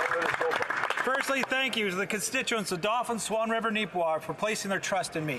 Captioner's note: some Applause